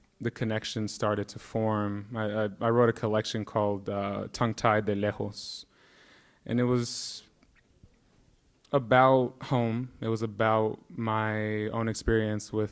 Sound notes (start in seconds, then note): 5.1 speaking in Spanish